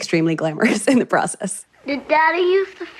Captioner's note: laughs